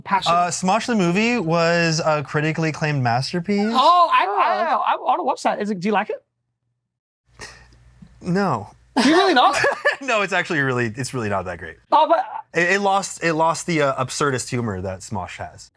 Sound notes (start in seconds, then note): 9.0 laughs